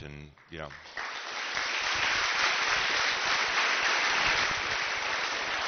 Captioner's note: applause